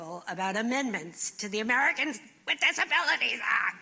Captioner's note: imitating eunice shriver